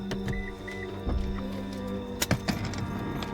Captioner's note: car beeps